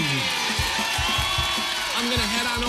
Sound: audience cheering

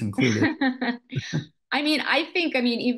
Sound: laughs

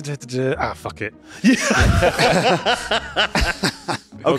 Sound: laughing at the AUDACITY of Yahtzee

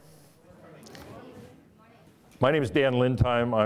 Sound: audience murmuring

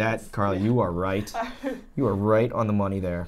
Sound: laughs

